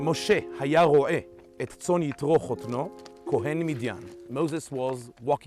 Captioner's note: speaking in Hebrew